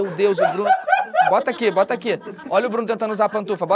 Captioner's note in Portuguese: risadas